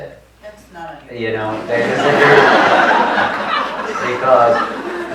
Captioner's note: audience laughs